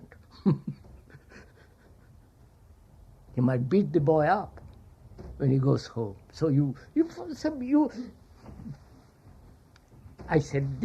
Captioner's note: laughs